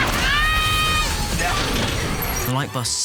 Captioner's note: grunts